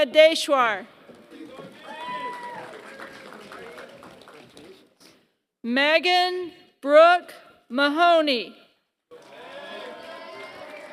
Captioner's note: applause; applause